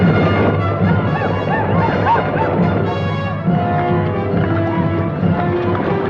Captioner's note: dramatic orchestral music; Apaches howl